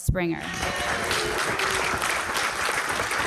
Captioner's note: cheers and applause